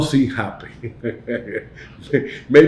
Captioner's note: chuckles